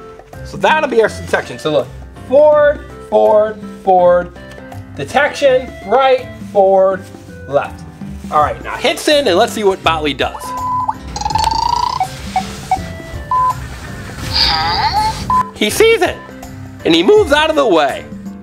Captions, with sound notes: So that'll be our detection, so look. Forward, forward, forward, detection, right, forward, left. All right now hit send and lets see what Botley does. (beeping) He sees it and he moves out of the way.